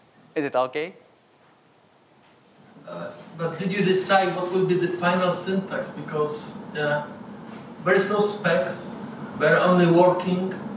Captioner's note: speaking in foreign language